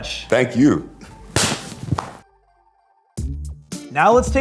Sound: hands slapping

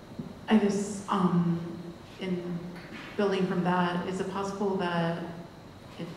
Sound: voiceover

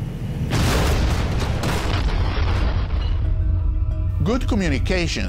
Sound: sound of explosion

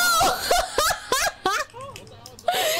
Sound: Siska Laughing

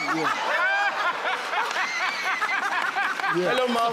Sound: laughing

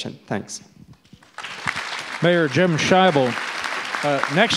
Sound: audience applause

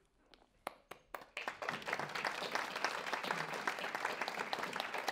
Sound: audience clapping

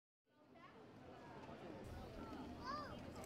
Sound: street noise

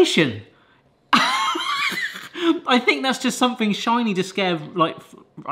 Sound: chuckles

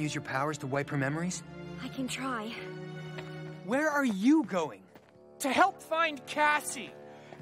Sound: none

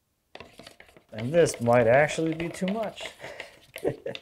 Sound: chuckles

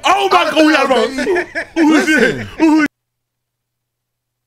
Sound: laughing

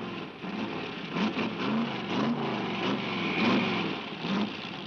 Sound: engine rumbling

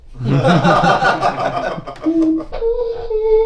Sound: laughs

